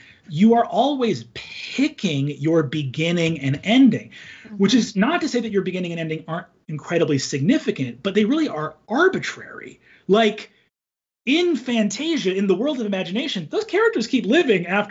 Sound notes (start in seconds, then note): none